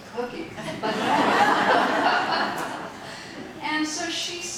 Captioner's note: audience laughing